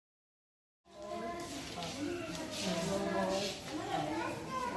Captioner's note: chatter